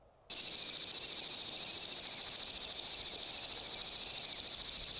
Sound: insects chirrup

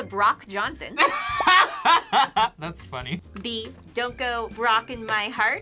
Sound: laughs

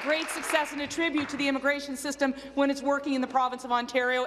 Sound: applause

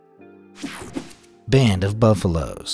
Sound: logo whooshing

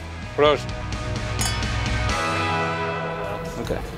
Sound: clinking

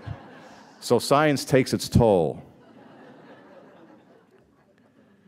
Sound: laughter; laughter

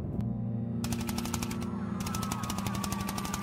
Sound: sirens

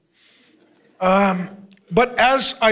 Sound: congregation laughing

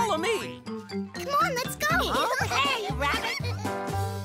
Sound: excited laughter

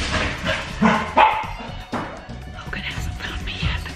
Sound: Logan barking

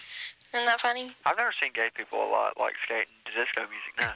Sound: man over phone

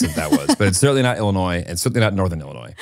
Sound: laughs

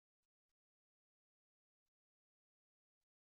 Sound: none

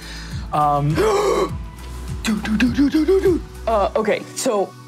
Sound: gasps

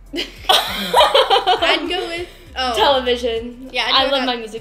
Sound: laughs

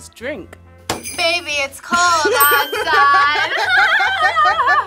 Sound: bells jingling; both laugh

